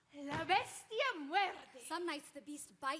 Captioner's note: speaking Spanish